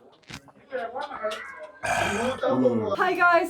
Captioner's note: gulp, sigh